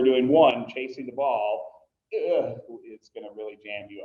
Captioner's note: groans